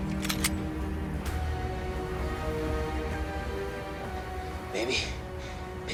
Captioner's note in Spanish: Sonido al cargar el arma